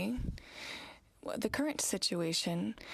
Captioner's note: speaking french